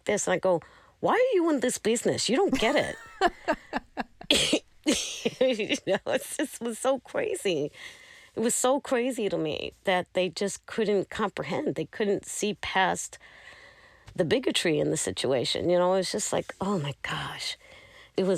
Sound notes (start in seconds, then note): 2.5 laughter